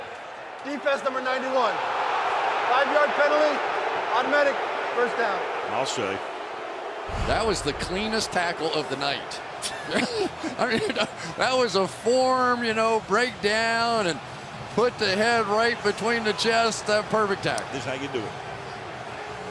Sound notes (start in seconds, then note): 2.3 booing; 9.6 laughter